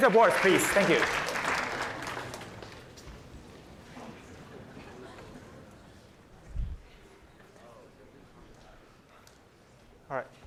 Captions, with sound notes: OK, board four is correct. [APPLAUSE] Erase your boards. Erase your boards, please. Thank you.